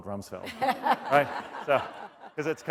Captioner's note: laughter